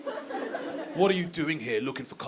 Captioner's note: audience laughing